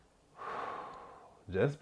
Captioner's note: exhale